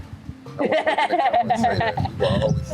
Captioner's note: laughing